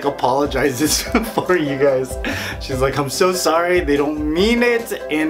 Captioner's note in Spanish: Risas